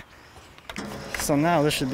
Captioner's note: engine whirring